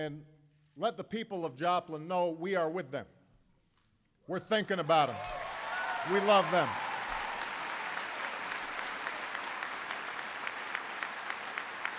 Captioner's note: applause